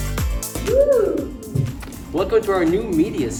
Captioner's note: woooo